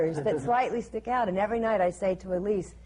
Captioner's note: laughter